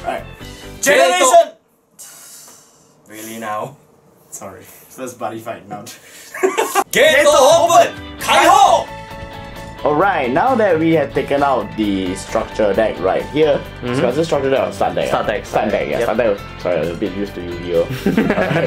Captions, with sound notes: Alright GENERATION- *sigh* really now? sorry first Buddyfight now this GATE OPEN RELEASE! Alright now that we have taken out the structure deck right here wait so is this structure deck or start deck start deck start deck ah sorry am a bit used to Yu-Gi-Oh